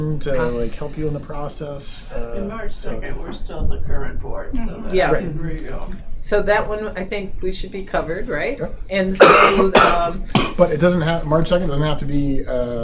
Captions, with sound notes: to help you in the process. In March 2nd, we're still on the current board, so that's pretty good. Yeah. So that one, I think we should be covered, right? And so-- (coughing) But it doesn't have, March 2nd doesn't have to be